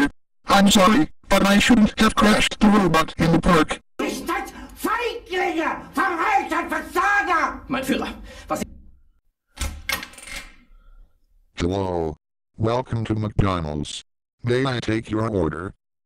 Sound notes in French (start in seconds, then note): 0.0 furieusement; 3.9 criant en anglais clair